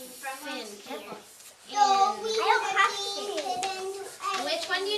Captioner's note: children chatting